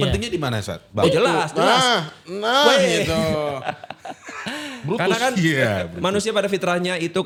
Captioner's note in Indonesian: tertawa